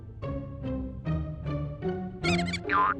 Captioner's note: mouse squeaks